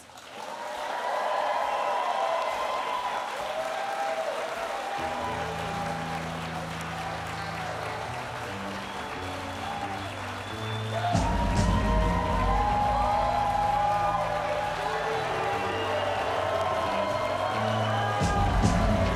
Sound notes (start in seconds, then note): 1.6 applause and cheers